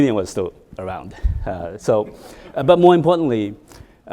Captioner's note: audience laughing